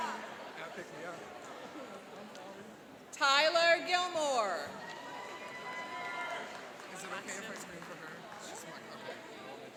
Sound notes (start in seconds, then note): 4.7 cheering and applauding